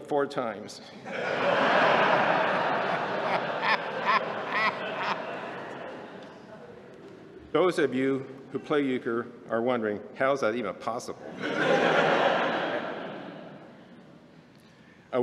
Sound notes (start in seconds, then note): 5.0 laughter; 13.2 laughter